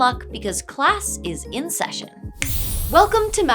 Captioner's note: magic Poof